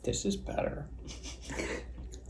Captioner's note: laughing